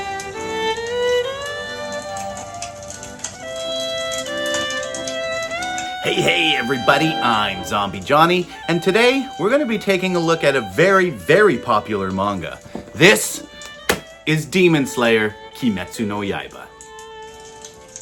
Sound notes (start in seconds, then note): 2.4 crackling Fire